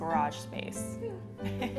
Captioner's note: laughter